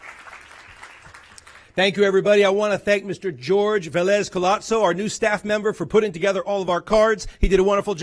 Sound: applause

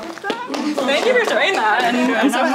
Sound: everyone clapping

